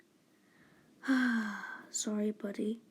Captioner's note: sigh